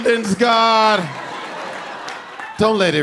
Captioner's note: audience laughing